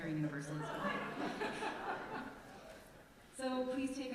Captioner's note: congregation exclaims and laughs